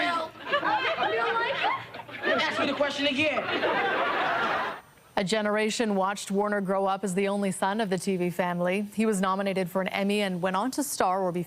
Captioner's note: laughter